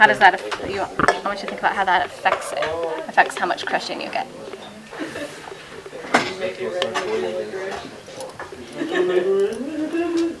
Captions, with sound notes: How does that-- I want you to think about how that affects it, affects how much crushing you get. [CLASSROOM CHATTER]